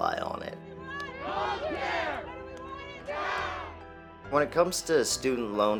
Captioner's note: people chanting